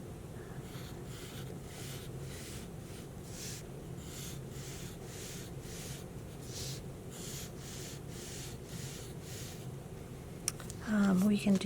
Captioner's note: pencil scratching